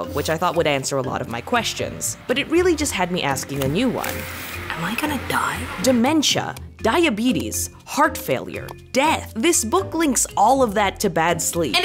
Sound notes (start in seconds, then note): none